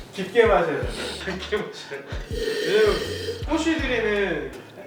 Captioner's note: inhaling